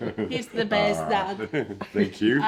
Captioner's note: chuckling